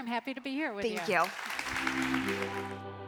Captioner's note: audience applauding; bright music